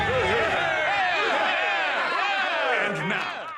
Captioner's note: cheering